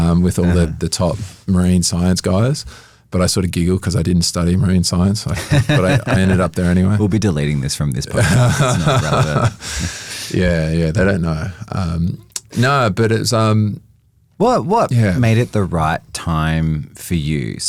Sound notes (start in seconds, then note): 5.3 laughs; 8.1 laugh